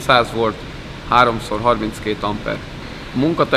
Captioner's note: amps